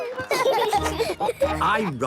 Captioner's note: laughing